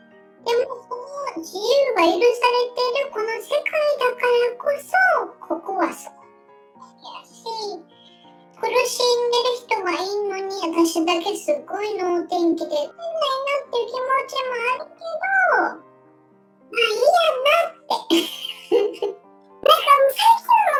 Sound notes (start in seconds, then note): 17.9 laughs